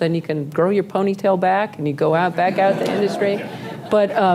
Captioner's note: laughter